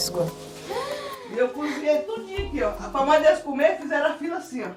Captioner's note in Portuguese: mulher falando ao fundo